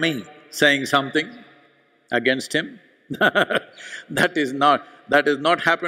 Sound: laughs

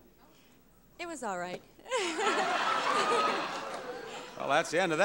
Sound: laughter

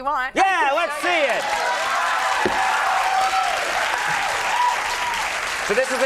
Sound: crowd cheering

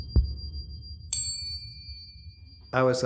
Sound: bell rings

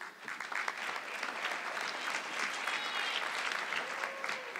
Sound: audience clapping

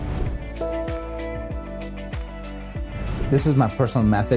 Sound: gentle music; whoosh sound

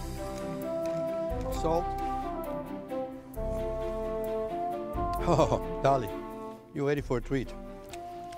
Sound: laughs

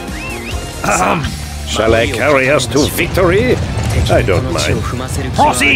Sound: ahem

